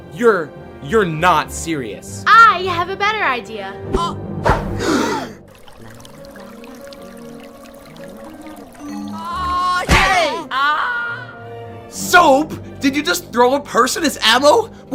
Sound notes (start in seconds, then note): 3.6 whooshing; 4.6 all gasp; 5.4 water softly rushing; 8.8 notification chimes; 9.2 toilet screams